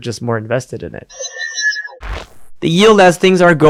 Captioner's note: machine whirring